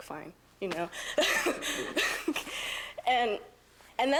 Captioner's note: student laughing